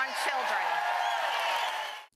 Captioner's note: cheering and applause